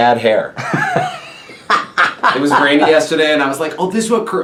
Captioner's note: laughs